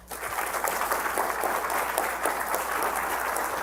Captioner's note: applause